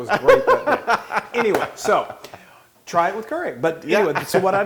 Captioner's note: laugh